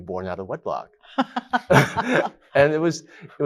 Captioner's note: laughs